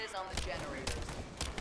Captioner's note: gunshots